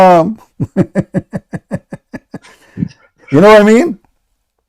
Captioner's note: Ketawa